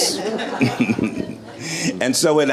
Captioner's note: chuckles